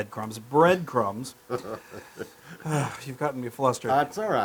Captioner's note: laugh